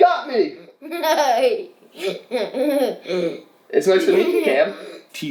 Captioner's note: laughing